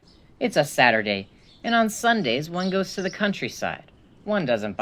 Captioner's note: bird chirping